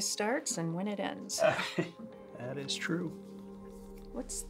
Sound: chuckles

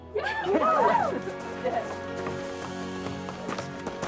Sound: group cheers

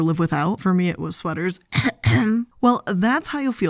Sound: clears throat

